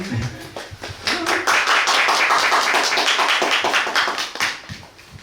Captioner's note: applause